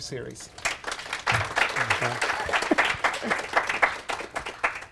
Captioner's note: audience clapping